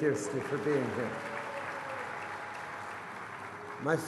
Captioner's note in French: Applaudissements